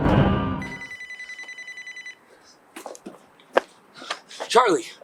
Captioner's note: phone ringing